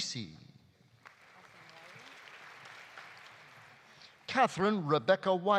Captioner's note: audience applauding